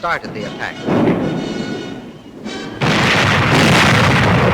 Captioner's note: bombs exploding